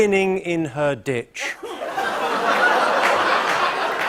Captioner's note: laughter; laughter continues